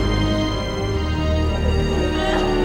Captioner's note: Elizabeth crying hysterically